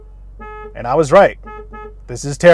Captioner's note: horn honking